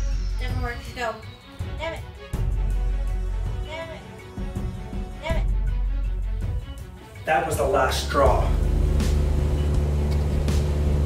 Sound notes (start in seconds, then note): 8.4 plane engine